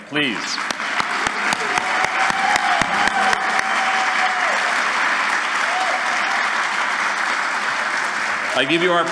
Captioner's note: cheering & Applause